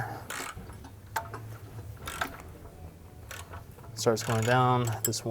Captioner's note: cranking engine part